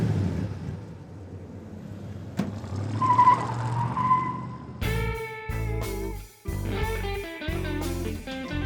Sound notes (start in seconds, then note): 1.8 tires squealing; 4.8 sultry jazz music